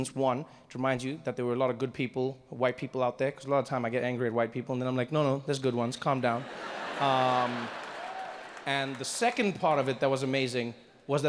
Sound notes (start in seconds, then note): 6.3 audience laughs